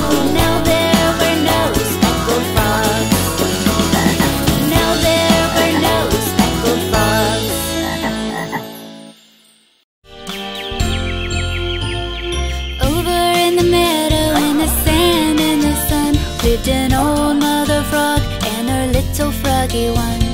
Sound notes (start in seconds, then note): 7.8 frog croaks; 10.5 light instrumental music